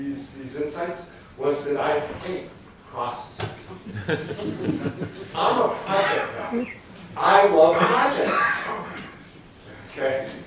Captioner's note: laughter